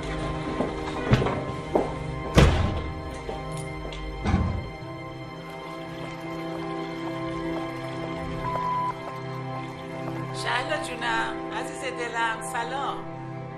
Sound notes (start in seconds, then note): 2.3 door closing; 4.7 dramatic music; 8.4 message beep